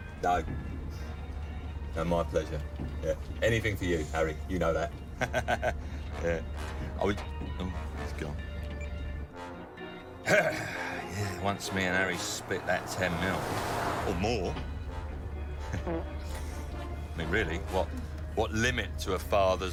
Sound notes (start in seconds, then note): 4.9 laughs; 15.8 man farts